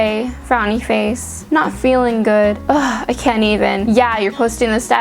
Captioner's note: ugh